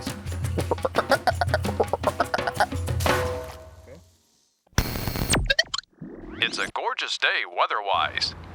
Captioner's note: traffic noise, honking, radio changing dial